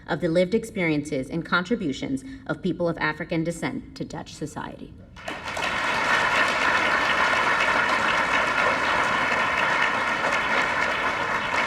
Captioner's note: applause